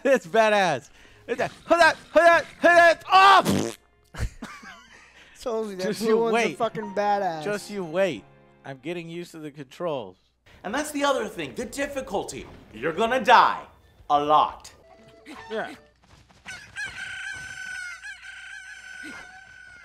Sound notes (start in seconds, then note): 1.6 fighting sound effects; 3.4 death fart; 16.3 Cucco cuckoos